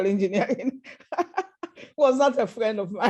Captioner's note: laughter